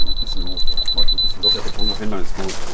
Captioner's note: fast beeps; soft conversation